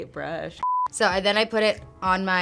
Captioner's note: beep